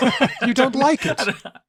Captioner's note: laughter